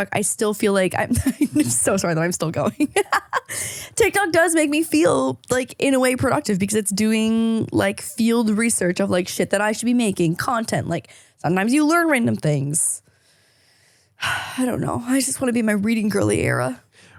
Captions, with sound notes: I still feel like (laughs) I'm so sorry that I'm still going. (laughing) TikTok does make me feel like, in a way productive, because it's doing like field research of like shit that I should be making content. Like sometimes you learn random things. (heavy sigh) I don't know. I just wanna be in my reading girly era.